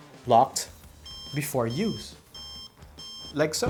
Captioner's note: gimbal beeping